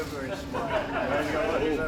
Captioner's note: laughter